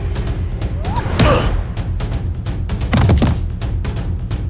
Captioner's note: Akari whooping